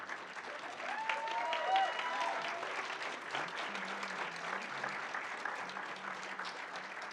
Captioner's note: audience cheering and applauding